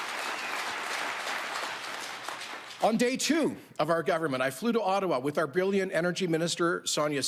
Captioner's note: applause